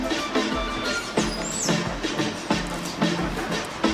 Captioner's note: birds chirping